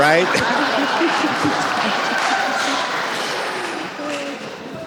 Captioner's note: audience laughs